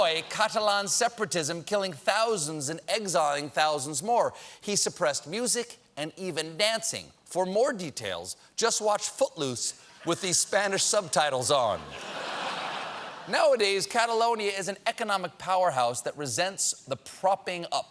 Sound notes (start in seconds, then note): 11.8 laughter